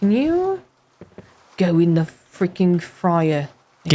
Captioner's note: vaguely British